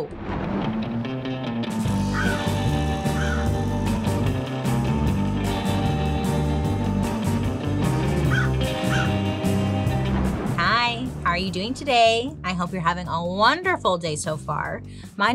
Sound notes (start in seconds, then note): 0.1 thunder crashing; 0.1 upbeat mysterious rock music; 2.0 bird cawing; 8.2 bird crowing; 9.8 thunder crashing